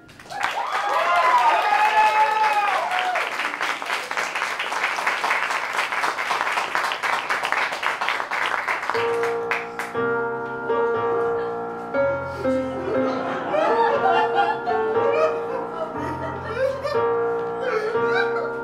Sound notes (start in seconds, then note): 0.0 applause; 8.7 mourners sobbing